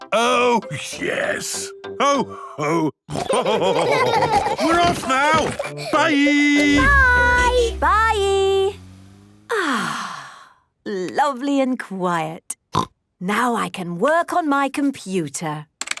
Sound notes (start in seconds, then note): 3.1 laughter; 6.6 honking; 9.5 contented sigh; 11.7 snorting